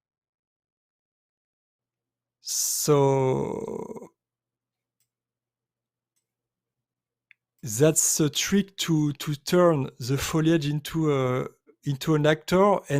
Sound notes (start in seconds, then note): none